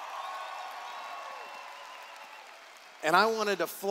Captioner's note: cheers